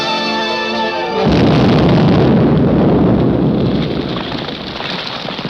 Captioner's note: dramatic music continues; explosives blast